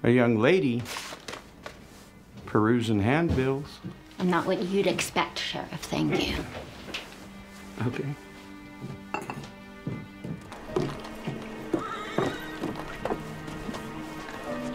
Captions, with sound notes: a young lady perusing handbills. - I'm not what you'd expect, Sheriff. Thank you. - Okay. (horses neigh at a distance)